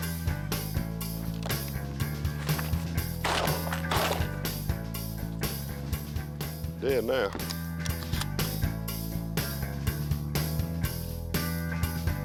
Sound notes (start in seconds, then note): 3.2 gun shots; 7.7 bluegrass music